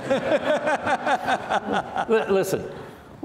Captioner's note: laughing